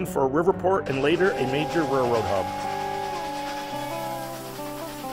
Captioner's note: train horn whistling; soft country music